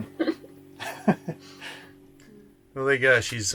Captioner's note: laughing